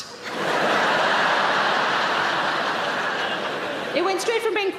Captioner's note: audience laughing